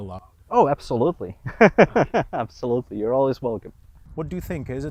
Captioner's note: laughs